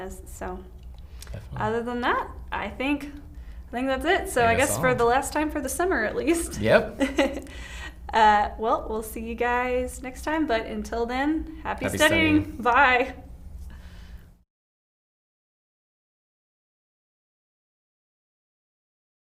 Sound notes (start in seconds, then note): 6.9 giggles